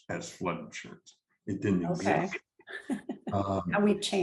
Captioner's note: chuckles